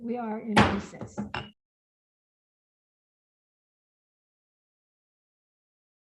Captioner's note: gavel thuds